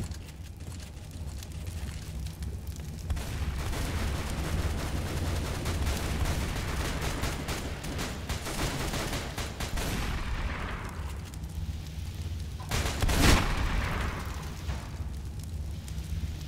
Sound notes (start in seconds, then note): 3.0 more gunshots and fire